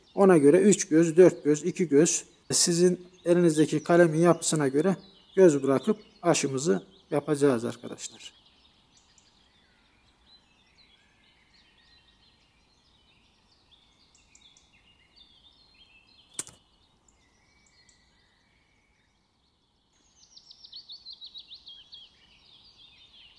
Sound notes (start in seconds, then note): 8.6 bird sounds